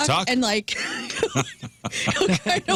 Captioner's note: laughter